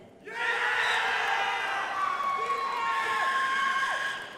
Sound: crowd applauding

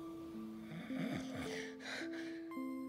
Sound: snoring loudly; soft music

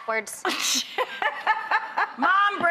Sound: laughter

